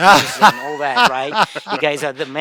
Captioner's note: laughs